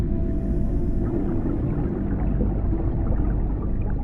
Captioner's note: bubbles burbling